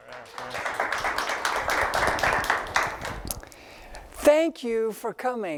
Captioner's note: applause